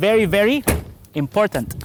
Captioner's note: door closes